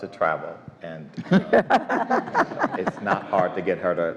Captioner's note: all laugh